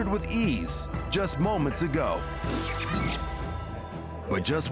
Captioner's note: tape rewinding